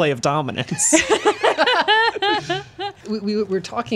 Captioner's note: laughing